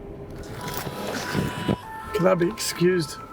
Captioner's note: phone rings